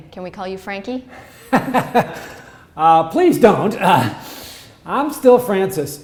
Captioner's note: laughs